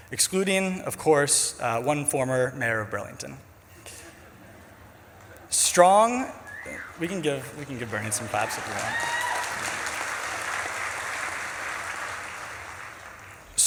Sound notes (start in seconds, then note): 3.9 audience titters; 9.5 audience claps and cheers